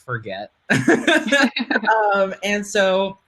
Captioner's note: laughing